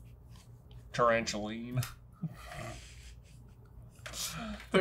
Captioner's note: chuckles